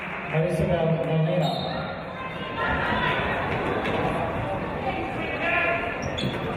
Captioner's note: referee's whistle